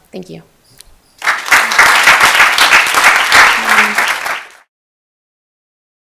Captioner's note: applause